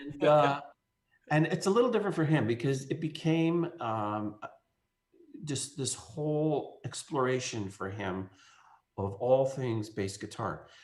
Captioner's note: laughing